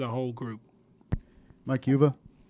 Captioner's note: thump